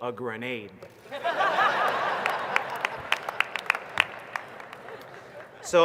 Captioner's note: laughter